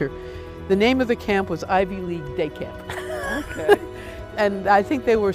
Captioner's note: laughs